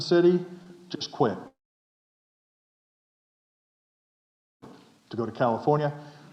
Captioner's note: audio stops